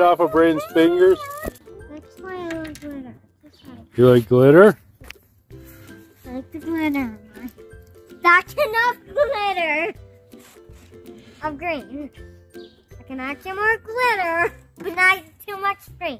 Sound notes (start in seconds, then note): 9.0 laughing